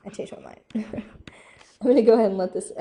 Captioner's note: chuckles